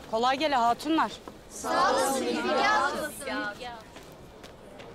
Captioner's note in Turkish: Hep bir ağızdan